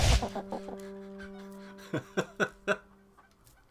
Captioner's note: NinjaFish laughs